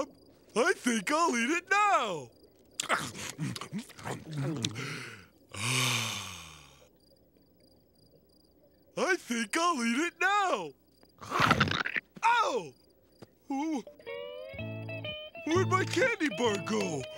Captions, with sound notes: I think I'll eat it now! [sighs] I think I'll eat it now! Ow! Oh! Where'd my candy bar go?